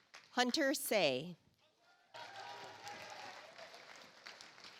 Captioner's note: audience applauds